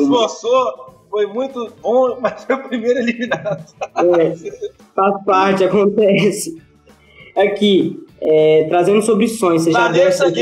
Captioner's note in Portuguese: risos